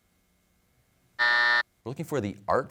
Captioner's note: buzzer